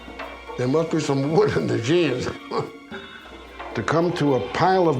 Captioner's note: chuckles